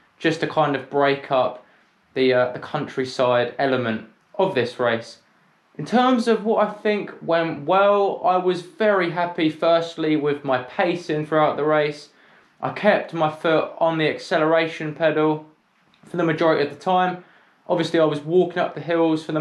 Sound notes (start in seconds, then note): none